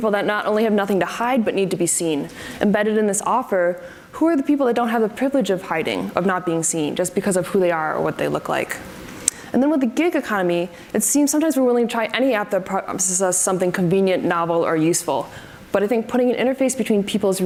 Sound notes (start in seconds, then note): none